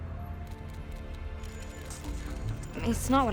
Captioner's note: cameras clicking